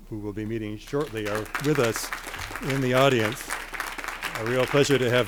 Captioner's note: crowd applauding